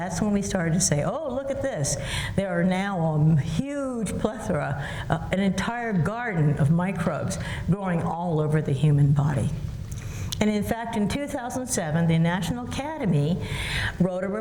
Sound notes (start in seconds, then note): none